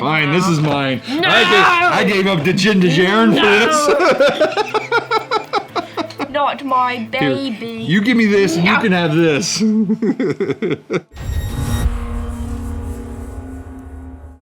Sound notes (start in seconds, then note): 5.7 laughs; 9.5 laughs; 11.2 electronic swoosh